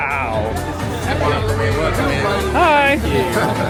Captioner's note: guests chattering; upbeat music